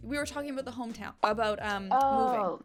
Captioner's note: none